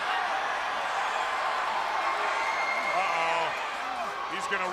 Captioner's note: crowd chatter